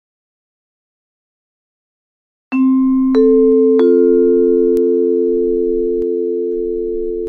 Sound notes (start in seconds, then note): 2.5 door Bell Rings